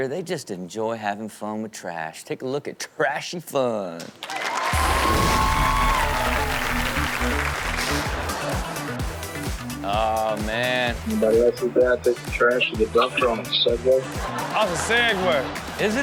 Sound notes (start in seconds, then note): 4.2 crowd cheering; 4.3 rock music plays; 13.8 crowd laughing